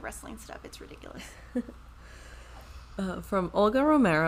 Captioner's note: chuckles